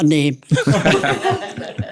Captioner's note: laughter